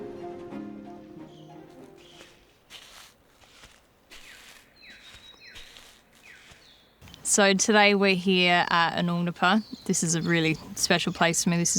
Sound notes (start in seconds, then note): 3.4 birds chirping; 4.3 footsteps in sand